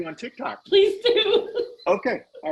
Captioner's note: laughing